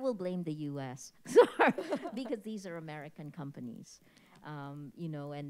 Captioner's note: all chuckle